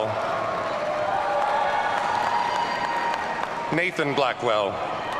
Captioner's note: audience cheering